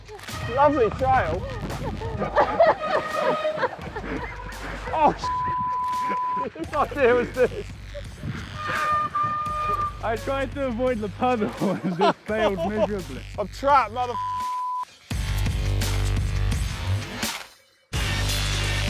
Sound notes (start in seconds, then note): 2.4 laughs